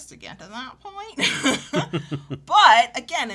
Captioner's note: both chuckle